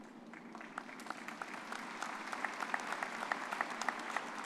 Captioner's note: all applauding